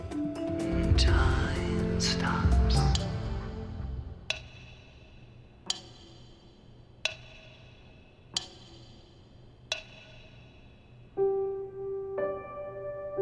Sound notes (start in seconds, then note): 3.3 slow, rhythmic ticking